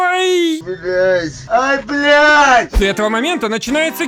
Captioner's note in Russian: звуки радости